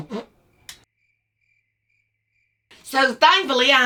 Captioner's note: farts